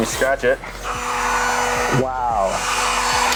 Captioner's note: machine whirring